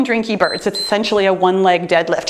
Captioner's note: timer beeps